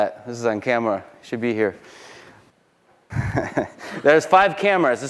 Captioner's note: chuckles